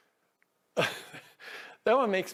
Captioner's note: host in blue laughing